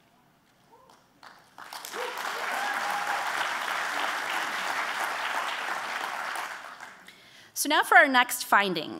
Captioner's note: applause